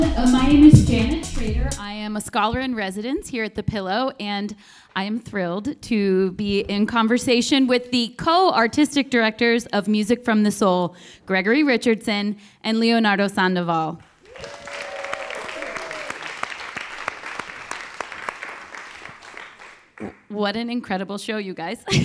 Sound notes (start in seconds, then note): 14.1 audience clapping and cheering